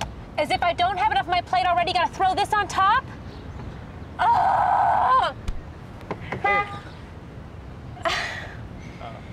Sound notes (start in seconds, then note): 4.2 loud screaming; 6.4 loud honk